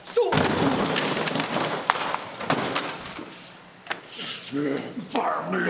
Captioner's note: objects clattering